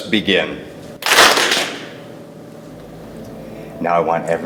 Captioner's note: hands clapping